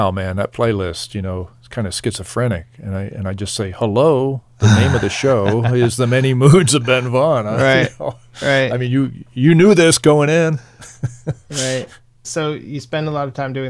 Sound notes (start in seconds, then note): 10.7 laughing